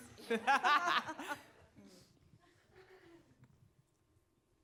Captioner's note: panelists laughing